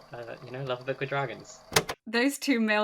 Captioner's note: tape recorder clicks